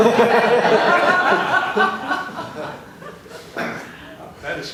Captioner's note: laughter